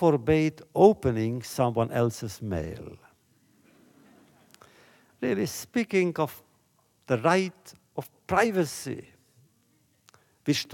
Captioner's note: laughter